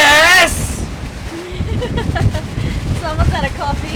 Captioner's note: laughs